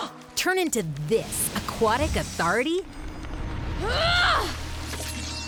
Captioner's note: none